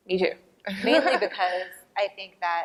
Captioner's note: laughter